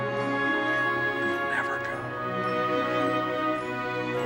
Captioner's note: whispering